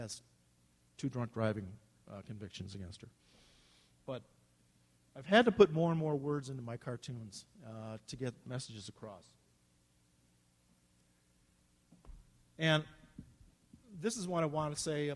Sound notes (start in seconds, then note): none